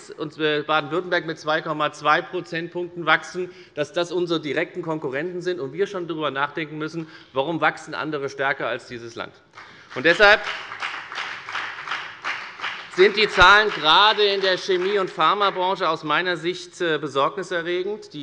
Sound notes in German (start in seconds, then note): 9.5 Beifall bei der FDP und bei Abgeordneten der SPD